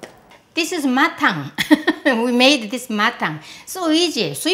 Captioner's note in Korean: 웃음